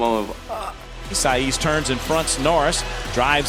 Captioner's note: voiceover